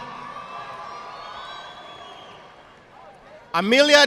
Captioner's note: audience applauding